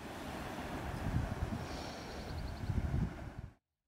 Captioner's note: sea whooshing